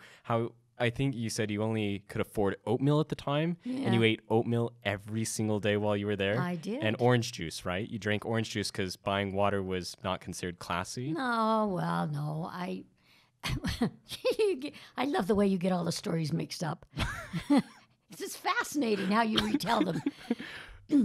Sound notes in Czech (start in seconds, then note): 14.5 Chichotá se